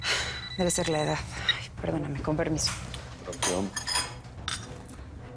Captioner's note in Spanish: Suena un celular